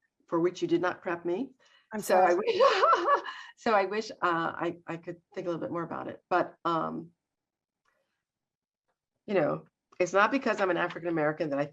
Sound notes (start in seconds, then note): 2.0 laughs